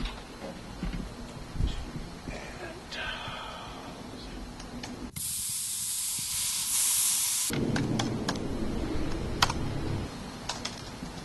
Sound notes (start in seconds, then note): 0.1 mumbles to self; 4.2 buzz of motor; 4.2 key tapping